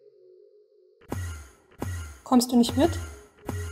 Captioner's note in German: Enderman Teleport Geräusche